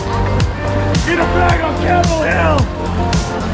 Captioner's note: man yelling; more yelling